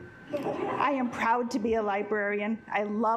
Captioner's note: assembly laughing